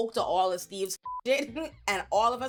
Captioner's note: beep